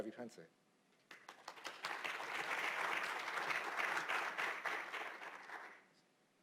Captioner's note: applause